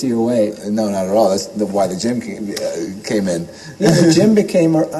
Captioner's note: laugh